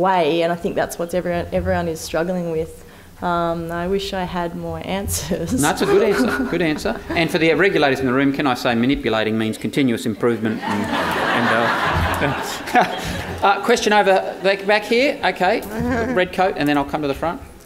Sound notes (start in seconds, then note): 10.4 audience laughter